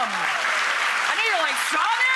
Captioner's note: audience applauds